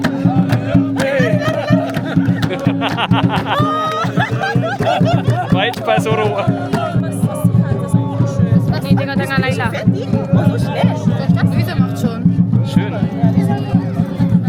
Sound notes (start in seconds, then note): 0.1 laugh; 11.6 speaking German